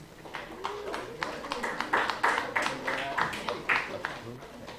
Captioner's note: applause